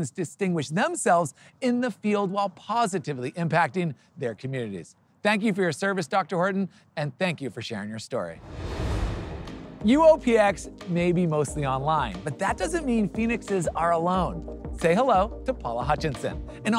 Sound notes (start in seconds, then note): 8.4 transition whooshing; 9.2 upbeat music